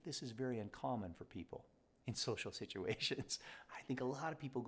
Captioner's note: chuckles